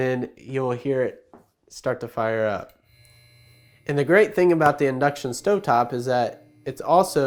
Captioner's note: click